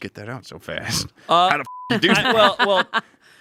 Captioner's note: beep